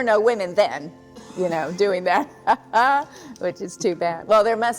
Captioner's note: laughs